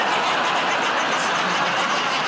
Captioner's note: laughter